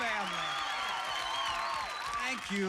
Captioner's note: cheers and applause